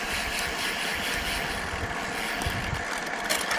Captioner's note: shifting gears